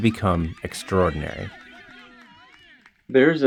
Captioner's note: crowd cheering